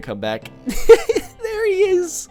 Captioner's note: giggle